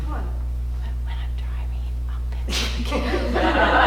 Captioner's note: whispers